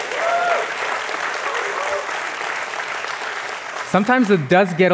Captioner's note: applause